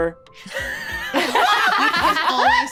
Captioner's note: all laughing